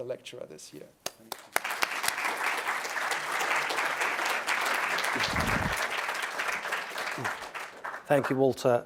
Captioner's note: applause